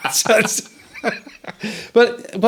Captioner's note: all laughing